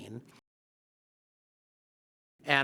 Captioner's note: silence